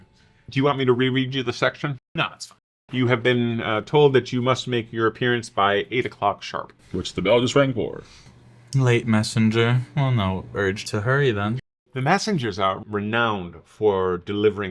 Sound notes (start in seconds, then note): none